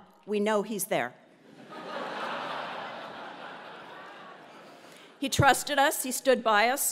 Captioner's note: laugh